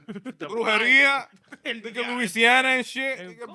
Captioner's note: speaking In Foreign Language